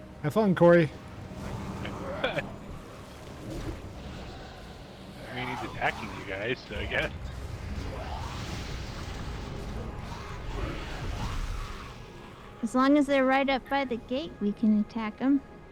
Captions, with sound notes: Have fun, Cory. [laughs] I mean, he's attacking you guys, I guess. As long as they're right up by the gate, we can attack them.